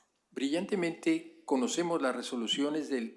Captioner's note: spanish